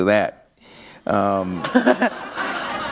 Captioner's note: laughter